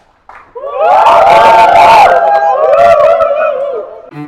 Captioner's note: cheers